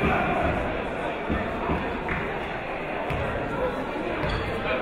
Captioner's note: yelling